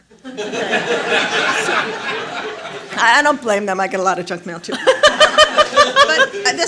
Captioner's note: laughter